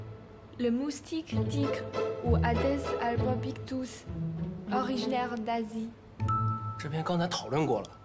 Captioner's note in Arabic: فرنسي